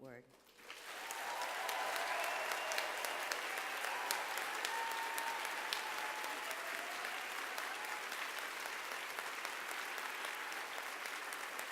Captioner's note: applause